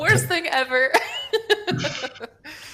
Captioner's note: laughs